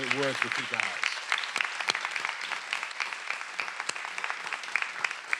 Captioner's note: everyone applauding